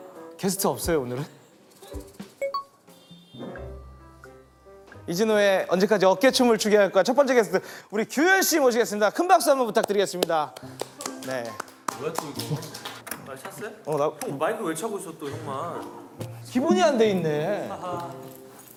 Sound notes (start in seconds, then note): 10.5 small round of applause